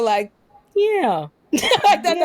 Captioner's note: laughter